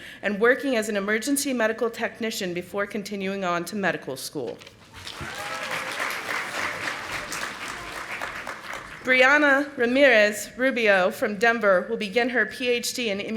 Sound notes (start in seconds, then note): 4.9 audience applauding